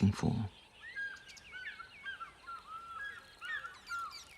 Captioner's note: birds calling in distance